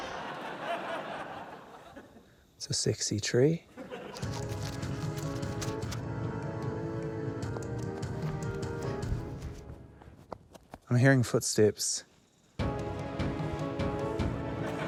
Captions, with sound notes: - It's a sexy tree. (ENERGETIC MUSIC PLAYS) (MUSIC STOPS, FOOTSTEPS PATTER) - I'm hearing footsteps. (ENERGETIC MUSIC PLAYS)